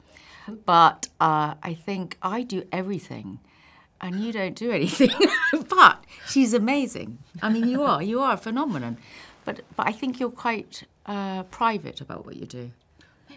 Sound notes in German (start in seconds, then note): 7.3 lachen